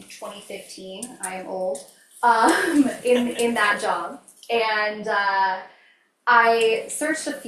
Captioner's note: laughs